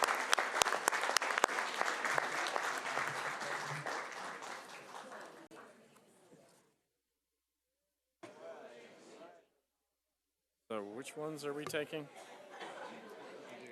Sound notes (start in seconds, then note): 2.4 applause